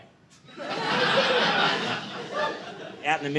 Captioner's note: audience laughing